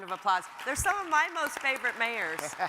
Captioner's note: audience applauds